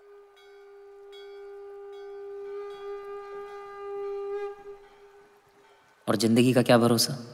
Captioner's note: Conch blows